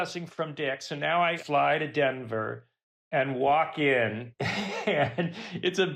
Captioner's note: laughs